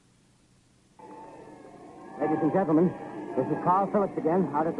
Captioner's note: police sirens